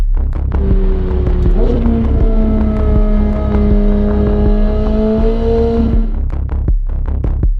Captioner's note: engine revving